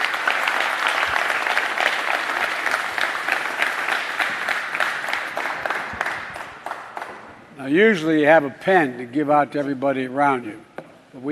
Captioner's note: applause